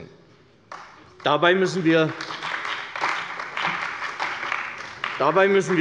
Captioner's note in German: Beifall bei der CDU